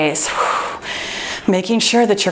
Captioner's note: exhales